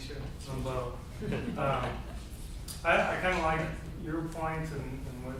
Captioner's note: group chuckles